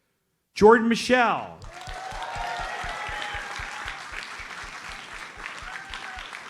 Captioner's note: audience cheers and applauds